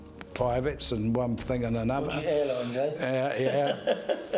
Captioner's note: laughs